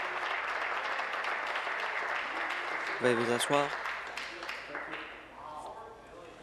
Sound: applause

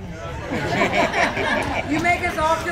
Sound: laughter and Applause

